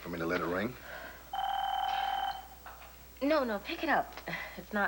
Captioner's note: telephone rings